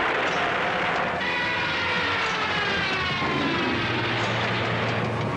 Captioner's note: explosion blasts; airplane screaming